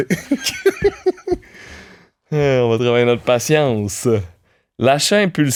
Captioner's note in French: rires